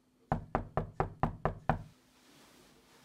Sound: knocking on door

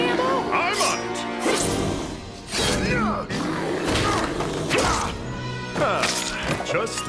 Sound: knife slashing noises, bears grunting and growling

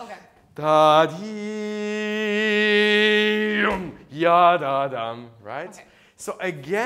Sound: vocalizes

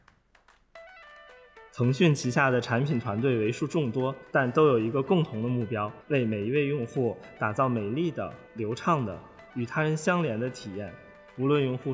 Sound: non-english speech

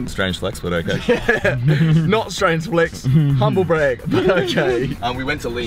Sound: laughs

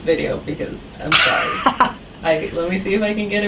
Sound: laughing

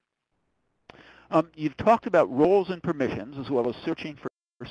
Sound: voiceover

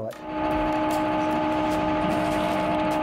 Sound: machine sounds

